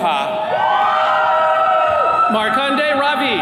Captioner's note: attendees cheering